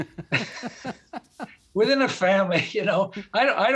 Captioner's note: both laughing